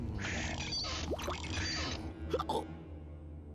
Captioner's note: stomach whooshing; hiccup